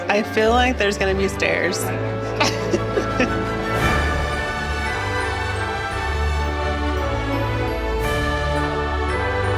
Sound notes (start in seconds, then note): 2.2 giggles; 3.8 elegant instrumental music